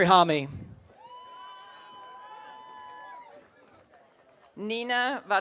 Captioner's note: audience cheering